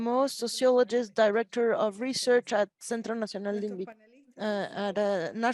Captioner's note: speaks Spanish